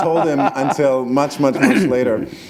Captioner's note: laughter